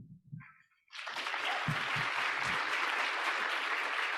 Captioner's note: audience applauding